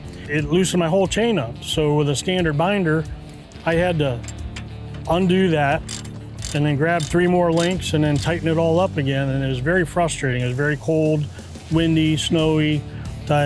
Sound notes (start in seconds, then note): 4.1 ratchet rattles